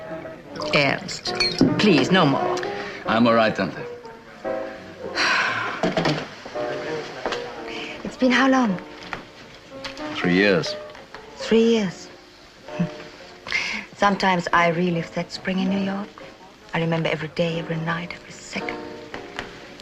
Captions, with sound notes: - Ernst, please, no more. - I'm all right. (sighs) - It's been how long? - Three years. Three years. Hmm. Sometimes I relive that spring in New York. I remember every day, every night, every second.